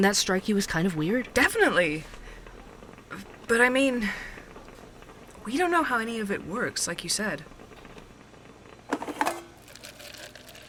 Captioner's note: sound: coffee machine noises